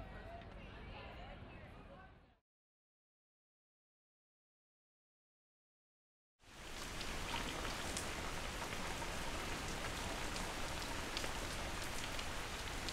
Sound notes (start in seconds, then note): 0.0 street people chattering; 6.4 rain splashing down